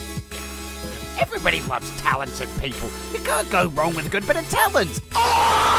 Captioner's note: british Noises